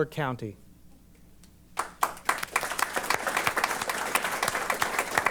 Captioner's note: applause